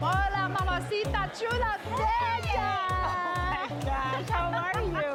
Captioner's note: speaking Spanish